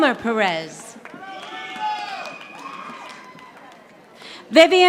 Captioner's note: audience applauding